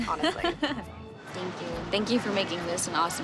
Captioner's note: laughs